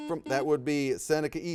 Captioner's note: buzzer beeps